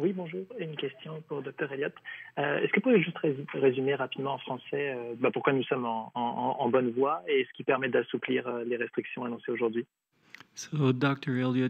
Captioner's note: speaking French